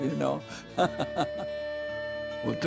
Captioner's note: laughing